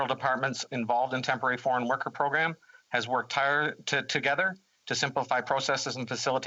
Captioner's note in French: voix de l'interprète